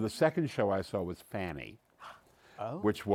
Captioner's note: gasps